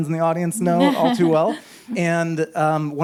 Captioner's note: chuckles